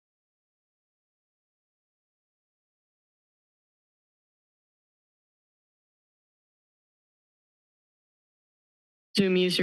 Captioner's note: silence